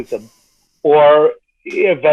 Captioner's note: snickering